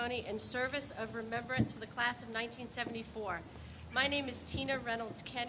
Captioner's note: none